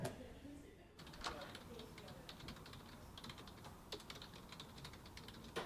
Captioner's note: fingers tap on keyboard